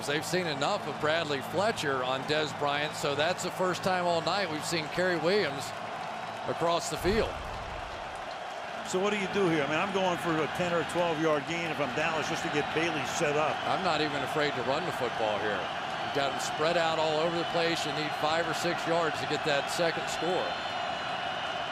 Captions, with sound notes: if I'm Dallas just to get Bailey set up. I'm not even afraid to run the football out here. You got them spread out all over the place. You need 5 or 6 yards to get that second score. [crowd cheering] Romo under pressure. Look out. Shovel pass to the 31, to Witten.